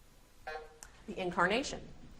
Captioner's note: beep buzzing